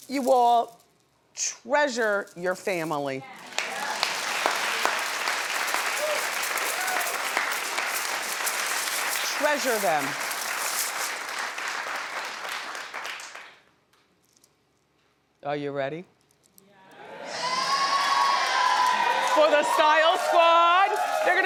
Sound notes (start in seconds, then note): 3.7 audience applauds